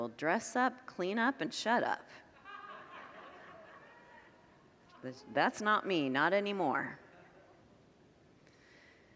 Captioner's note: congregants laugh